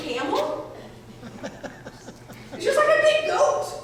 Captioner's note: audience members laughing